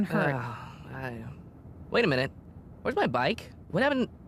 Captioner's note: sighs